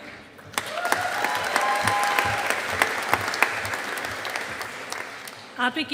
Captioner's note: audience applauding